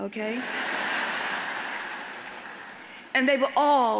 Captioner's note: audience laughs